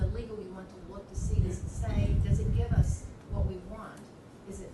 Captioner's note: none